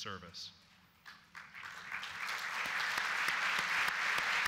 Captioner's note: applause